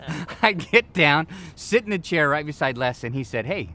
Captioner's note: laughs